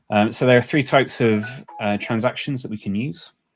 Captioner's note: alert chiming